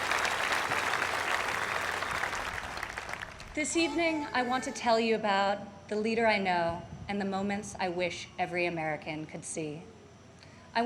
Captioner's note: applause